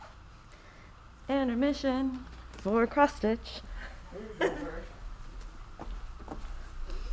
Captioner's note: chuckles